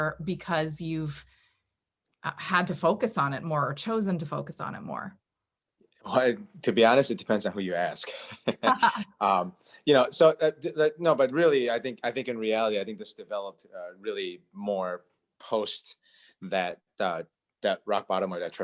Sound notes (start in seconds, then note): 8.1 laughing